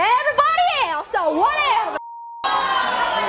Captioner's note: beep